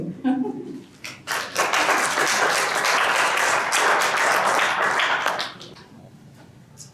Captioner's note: clapping